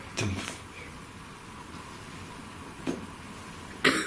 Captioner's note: voicing thudding